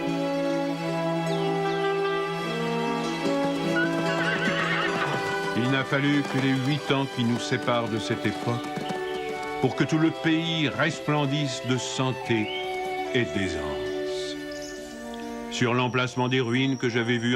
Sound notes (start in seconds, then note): 3.5 neighing